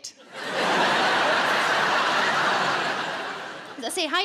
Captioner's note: audience laughing